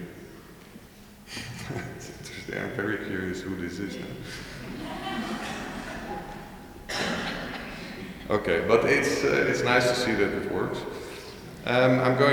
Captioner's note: laughing